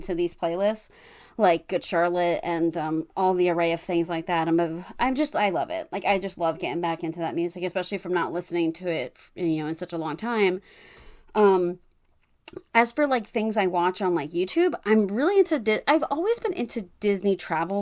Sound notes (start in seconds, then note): none